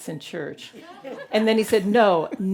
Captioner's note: audience laughing